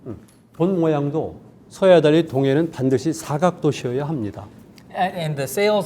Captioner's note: speaking in Korean